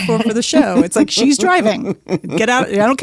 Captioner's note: laughs